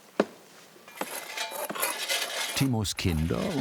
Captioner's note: metallic clanging